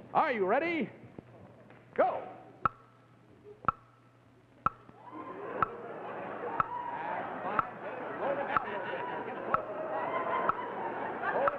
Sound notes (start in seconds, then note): 3.6 clock ticking; 5.0 audience laughing